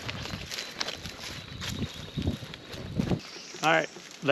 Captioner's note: grass crunching